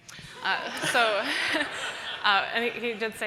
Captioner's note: audience laughing